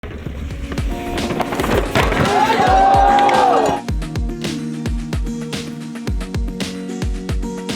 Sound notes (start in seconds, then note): 0.5 upbeat music; 1.8 crowd exclaims